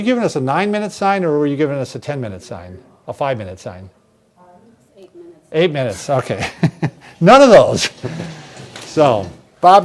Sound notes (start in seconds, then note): 6.2 laughing